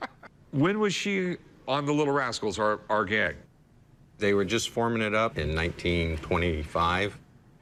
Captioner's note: laughs